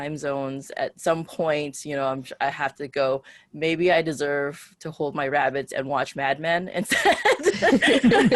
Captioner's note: laughs